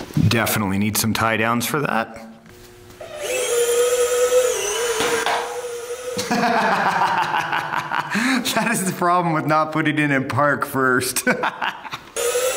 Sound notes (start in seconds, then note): 3.0 motor whirring; 6.2 laughs; 12.1 motor whirring